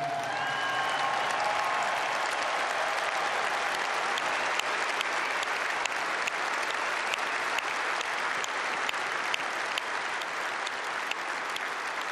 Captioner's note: applause